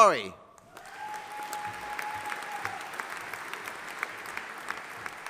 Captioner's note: audience applauding